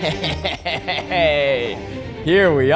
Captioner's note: tense violin music; chuckles